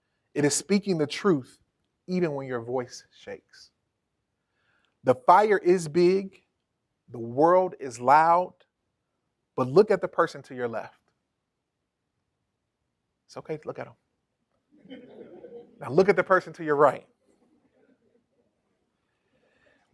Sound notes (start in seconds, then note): 14.8 chuckles